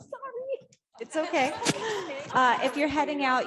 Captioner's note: audience laughing